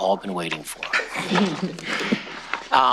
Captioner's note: chuckling